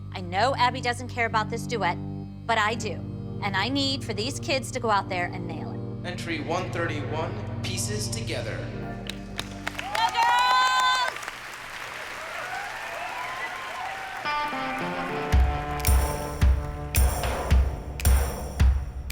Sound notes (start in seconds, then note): 8.8 applause